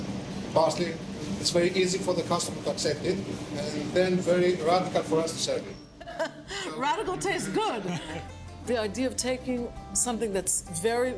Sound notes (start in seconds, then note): 7.2 laughs